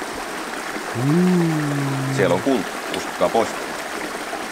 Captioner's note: sarcastically